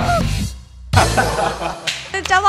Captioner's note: laughs